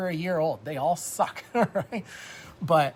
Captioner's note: laughs